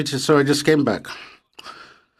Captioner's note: speaking French